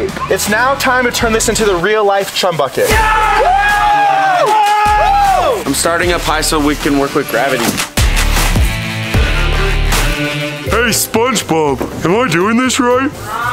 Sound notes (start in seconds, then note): 2.8 everyone cheers; 7.9 upbeat rock music